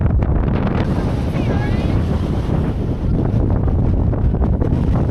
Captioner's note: massive wind hitting upon reaching the top